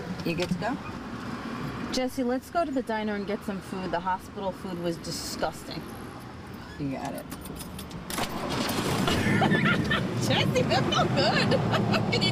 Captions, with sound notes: - You good to go? - Jesse, let's go to the diner and get some food. The hospital food was disgusting. - You got it. (engine starts) (laughing) - Jesse, that felt good!